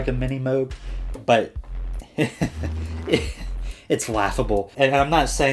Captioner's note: laughing